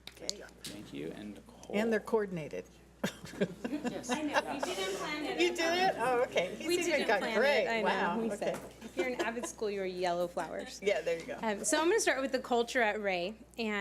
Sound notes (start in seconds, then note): 3.0 laughs